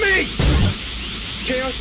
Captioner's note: whosh!